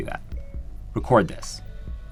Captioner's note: beep